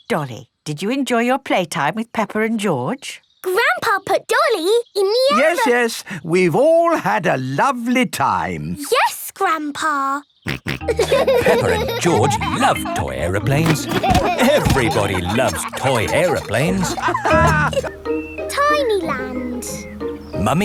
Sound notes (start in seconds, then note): 10.5 snorts; 10.9 laughing